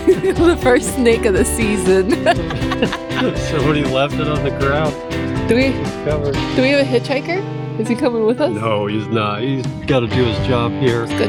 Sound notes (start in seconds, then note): 0.0 laughing